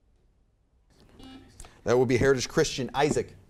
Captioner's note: buzzer beeps